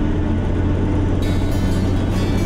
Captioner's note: phone rings